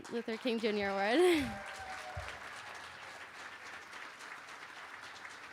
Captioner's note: applause